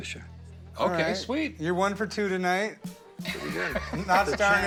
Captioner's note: laughs